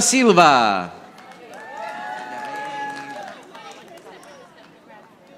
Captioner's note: audience applauding